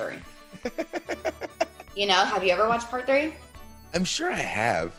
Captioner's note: laugh